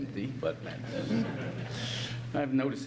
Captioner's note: audience laughs